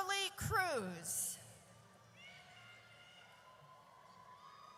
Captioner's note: audience cheers